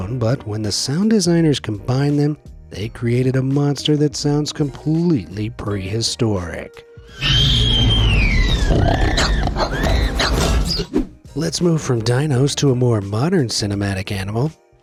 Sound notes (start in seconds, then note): 7.0 raptor squeals and snarls